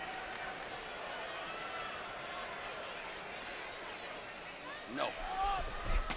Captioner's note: crowd chatter